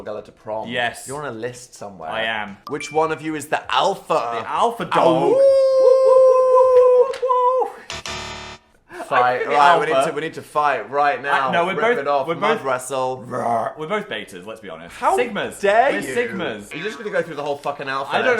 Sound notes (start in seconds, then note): 5.1 both howling; 13.2 growling